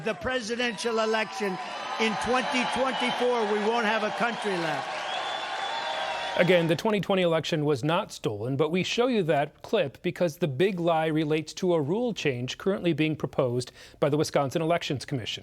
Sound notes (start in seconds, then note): 6.9 cheers